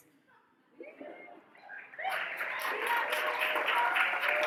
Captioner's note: audience cheers